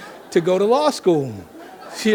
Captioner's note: audience laughing